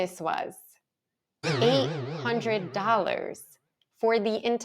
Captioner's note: audio boings